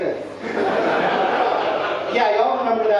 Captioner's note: audience laughing